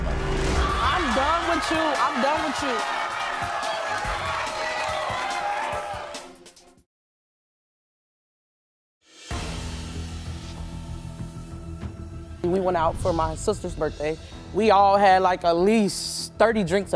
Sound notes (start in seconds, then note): 2.7 audience chatters; 9.2 dramatic music